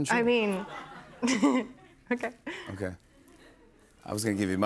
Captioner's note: laughs